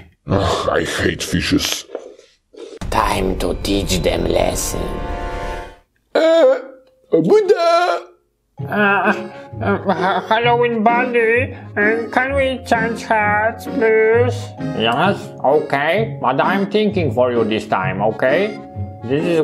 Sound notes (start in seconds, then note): 6.2 creature speaks jibberish